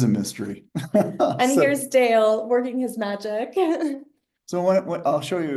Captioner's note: laughs; laughs